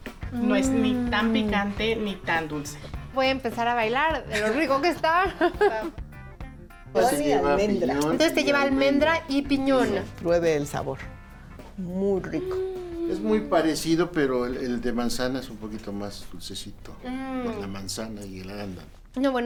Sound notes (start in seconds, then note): 2.9 speaking Spanish; 5.2 laughs; 13.1 speaking Spanish